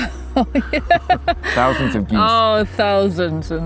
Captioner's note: laughs